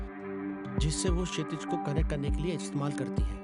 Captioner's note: none